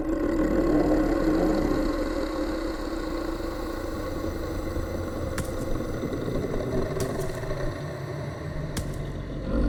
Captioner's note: growling